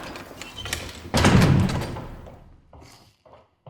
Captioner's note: door closing